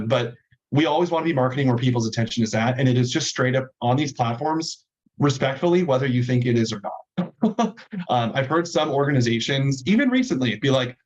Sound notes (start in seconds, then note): 7.2 chuckling